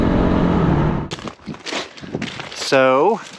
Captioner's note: footsteps